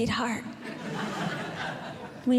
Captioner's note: audience Laughing